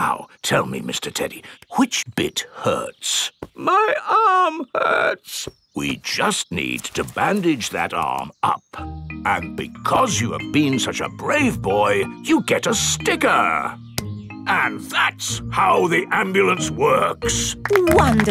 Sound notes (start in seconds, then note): 4.0 in teddy's voice; 6.2 in normal voice